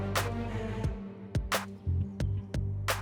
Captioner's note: none